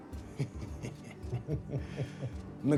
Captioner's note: chuckling